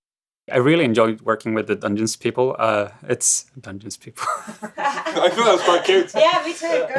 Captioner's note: laughs